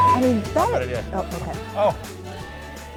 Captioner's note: beeping; laughing